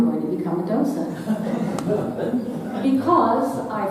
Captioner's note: audience laughing